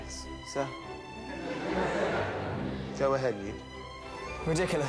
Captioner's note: students laughing